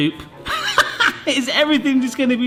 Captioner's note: laughing